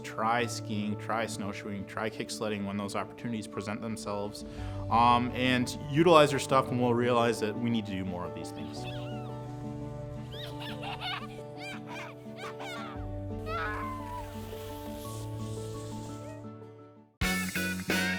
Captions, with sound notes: try skiing, try snowshoeing, try kicksledding when those opportunities present themselves and utilize your stuff and we'll realize that we need to do more of these things. (child giggling)